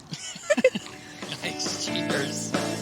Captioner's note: Peter and Julie laughing; upbeat music